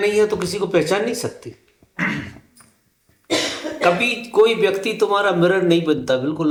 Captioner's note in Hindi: गला साफ़ करने की आवाज़